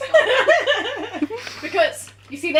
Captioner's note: laughter